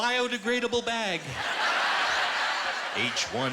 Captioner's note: laughter